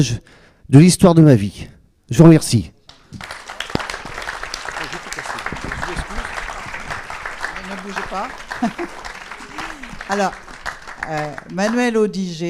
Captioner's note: applause